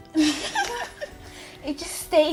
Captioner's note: laughs